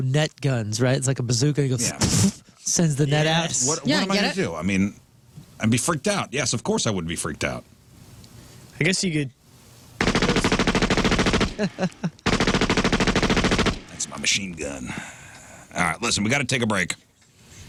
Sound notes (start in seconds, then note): 10.0 gunshots